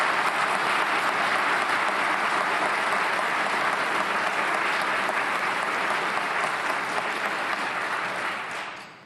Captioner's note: applause